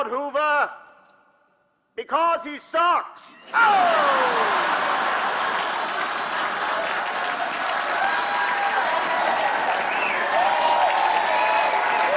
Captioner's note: cheers and applause; laughter